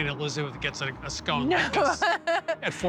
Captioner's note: laughs